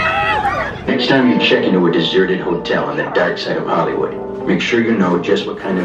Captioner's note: voiceover